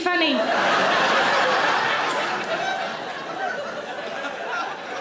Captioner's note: audience laughing